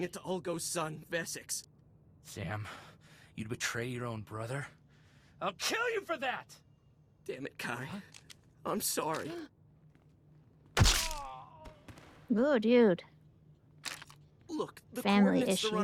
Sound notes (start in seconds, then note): 10.8 gunshot